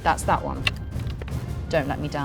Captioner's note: die rattling